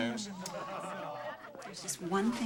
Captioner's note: all laughing